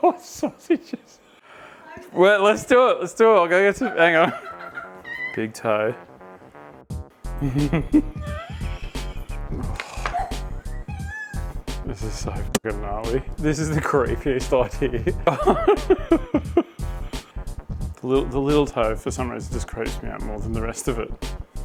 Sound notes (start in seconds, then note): 0.1 laughing; 3.8 laughing; 7.4 laughing; 14.8 laughing